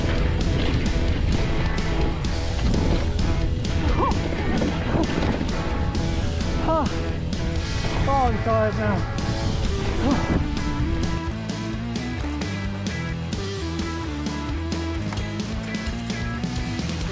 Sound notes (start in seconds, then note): 0.0 upbeat music; 3.7 grunting; 9.2 upbeat music